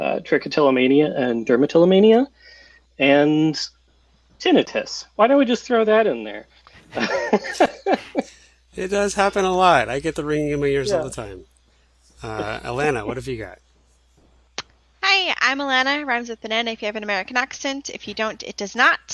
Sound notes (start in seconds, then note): 6.8 laughter